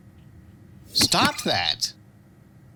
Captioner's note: button sound